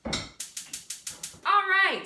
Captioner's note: starting the stove